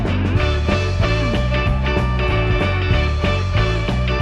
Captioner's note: cheers